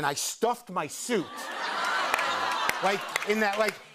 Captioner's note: laughter